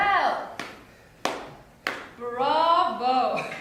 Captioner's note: slow clap